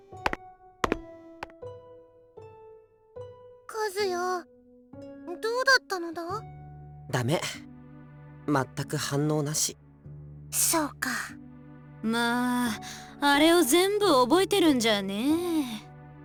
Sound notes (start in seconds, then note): 2.4 silence